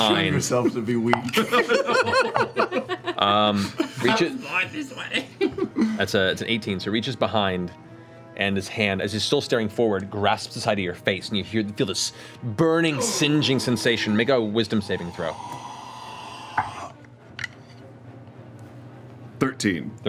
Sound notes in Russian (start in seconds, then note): 1.3 смех